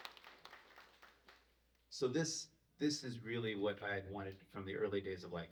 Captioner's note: applause